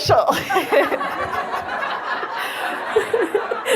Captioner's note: audience laughs